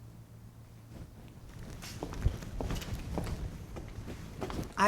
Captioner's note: footsteps